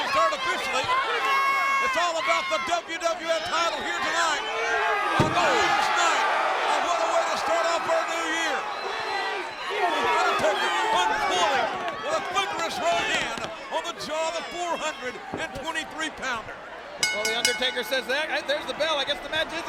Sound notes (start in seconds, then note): 17.0 bell rings